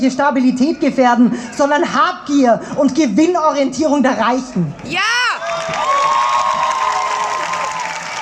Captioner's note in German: Applaus